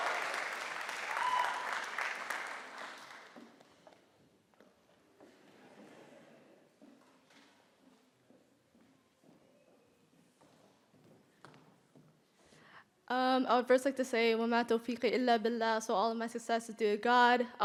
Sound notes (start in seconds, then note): 15.3 speaking Arabic